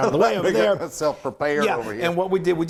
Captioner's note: laughing